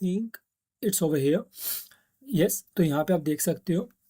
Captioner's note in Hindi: नाक से की जाने वाली आवाज़